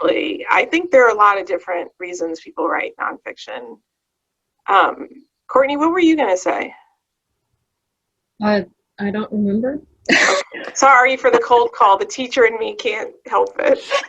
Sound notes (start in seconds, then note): 10.1 laughs